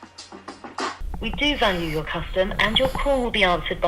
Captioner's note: automated Voice